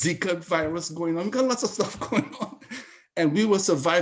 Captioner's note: laughs